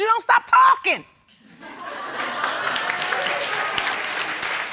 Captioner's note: audience applauds